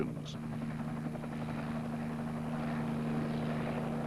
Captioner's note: helicopters buzzing